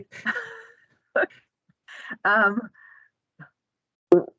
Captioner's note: both chuckle